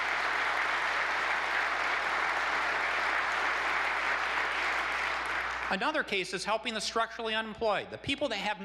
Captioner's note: applause